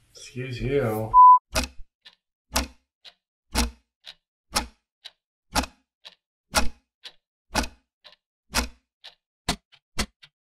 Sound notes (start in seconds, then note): 1.6 clock ticking